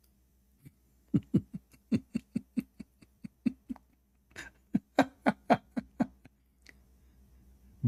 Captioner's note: Ketawa